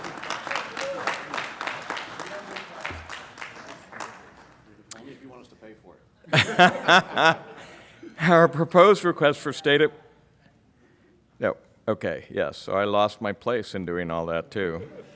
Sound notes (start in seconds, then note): 0.0 applauding; 6.3 laughing